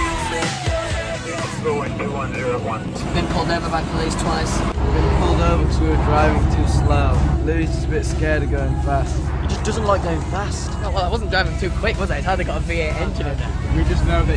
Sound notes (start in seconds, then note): none